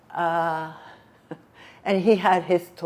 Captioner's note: laughing